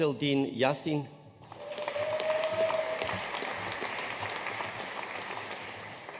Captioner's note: audience cheering and applauding